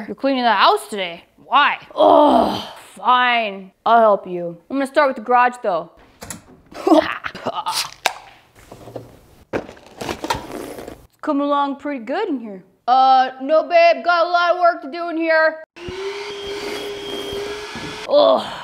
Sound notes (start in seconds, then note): 1.9 groans; 6.8 snickers; 7.9 can tab pops; 9.8 slurps; 15.7 Shop-Vac whirs